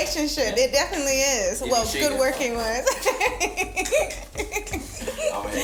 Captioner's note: laughs